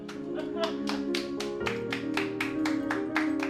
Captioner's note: clapping